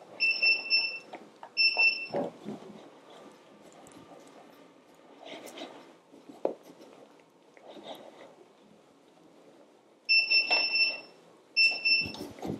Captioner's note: bicycle bell